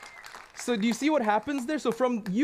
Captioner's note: applause